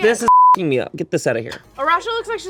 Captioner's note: beep